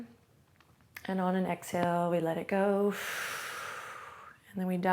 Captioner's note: exhales loudly